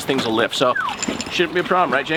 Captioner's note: whistling